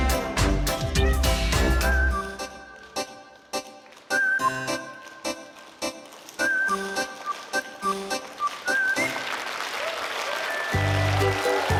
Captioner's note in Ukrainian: оплески